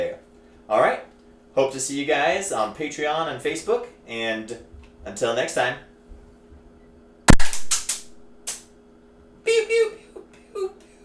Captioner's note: loud Smack on Microphone